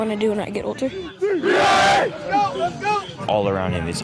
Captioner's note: cheering